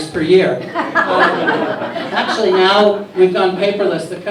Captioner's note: laughter